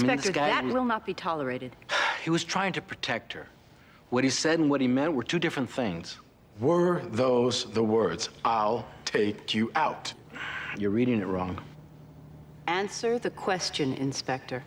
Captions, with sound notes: - Inspector, that will not be tolerated. - (sighs) He was trying to protect her. What he said and what he meant were two different things. - Were those the words? "I'll take you out"? - You're reading it wrong. - Answer the question, Inspector.